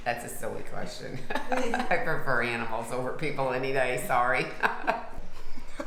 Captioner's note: giggling; laughs